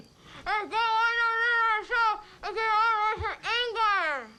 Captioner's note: Zeke mumbling rapidly